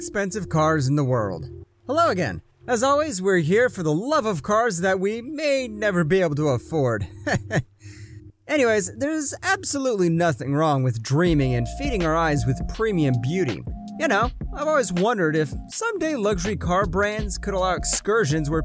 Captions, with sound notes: Hello Again! As always, we’re here for the love of cars that we may never be able to afford. *laughs* Anyway, there’s absolutely nothing wrong with dreaming and feeding our eyes with premium beauty. You know, I’ve always wondered if someday luxury car brands could allow excursions where